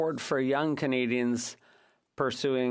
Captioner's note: speaking French